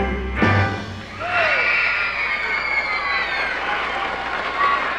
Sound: fans cheering

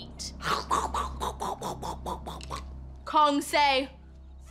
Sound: makes crunching sounds

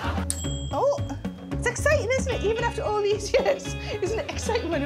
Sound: microwave dings

